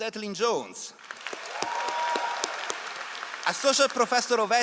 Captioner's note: all applauding